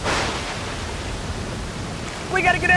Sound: lightning cracks

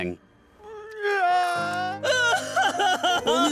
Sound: crying

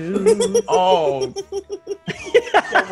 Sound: laugh

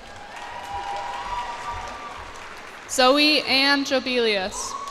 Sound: cheers and applause

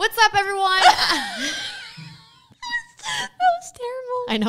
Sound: both laughing

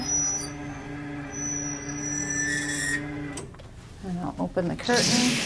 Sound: bed controls squeak

